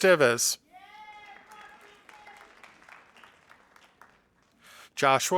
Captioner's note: audience applauding